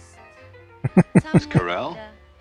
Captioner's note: chuckling